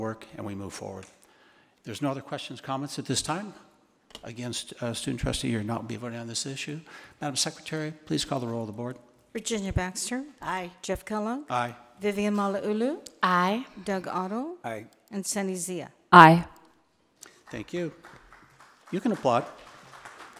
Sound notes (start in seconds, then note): 17.3 attendees applauding